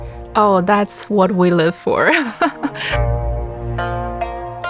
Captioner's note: laughs